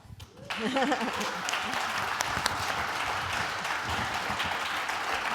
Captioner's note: audience applauding